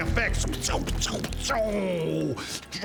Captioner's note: equally good sound effects